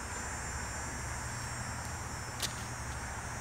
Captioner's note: cicadas